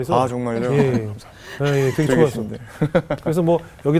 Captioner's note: laughing